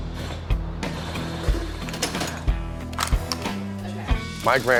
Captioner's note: power tool rattling